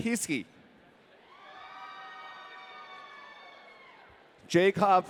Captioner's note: audience cheering